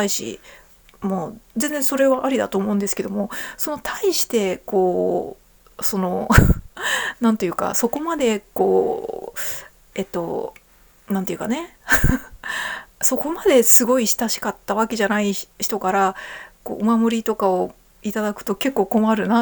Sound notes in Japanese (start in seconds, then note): 6.3 笑い